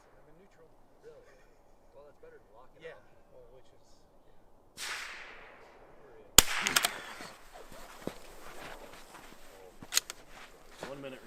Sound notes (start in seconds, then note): 0.1 people talking; 6.3 rifle fires; 10.5 people talking